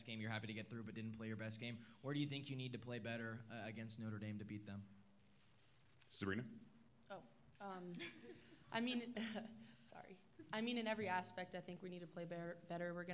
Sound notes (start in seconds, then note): 11.9 laughter